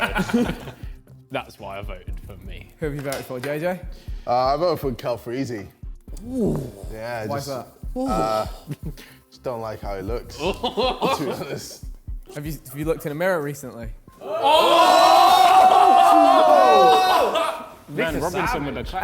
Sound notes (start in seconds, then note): 0.0 men laughing; 10.3 men laughing; 14.2 men exclaiming